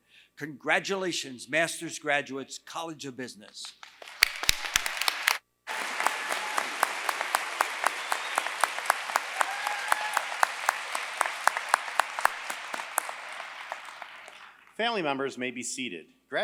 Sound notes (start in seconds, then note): 3.8 applause